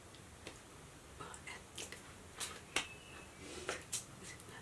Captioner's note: none